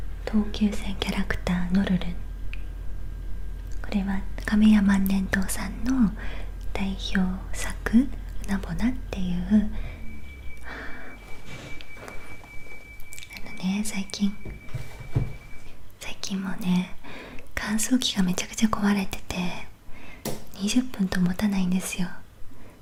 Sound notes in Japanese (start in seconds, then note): 13.9 機械の音